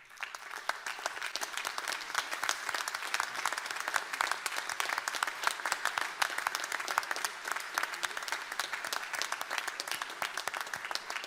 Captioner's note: applause